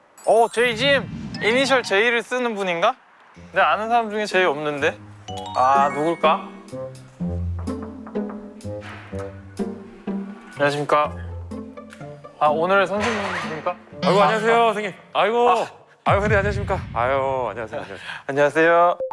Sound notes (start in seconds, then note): 7.3 nervous knock; 8.8 door opens